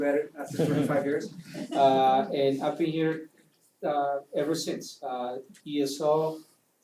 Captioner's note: laugh